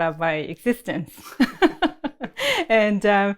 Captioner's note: laughs